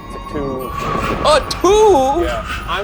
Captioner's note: thunder rumbling